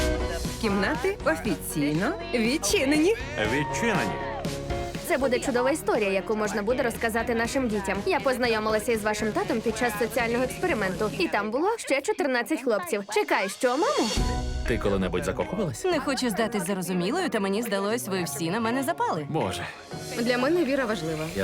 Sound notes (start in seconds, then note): 3.1 cheering; 12.7 laughs